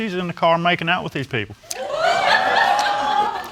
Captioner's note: audience exclaiming and laughing